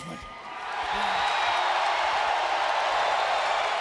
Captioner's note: crowd cheering